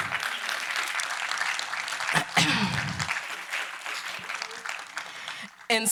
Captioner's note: applause